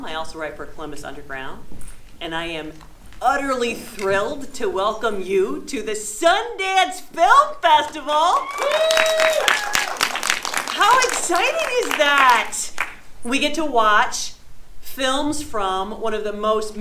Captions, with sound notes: I also write for Columbus Underground and I am utterly thrilled to welcome you to the Sundance Film Festival. (audience applauding) How exciting is that? We get to watch films from one of the most